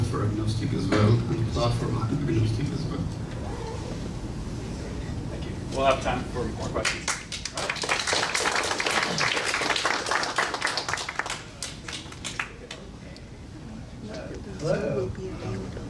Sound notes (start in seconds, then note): 12.8 clapping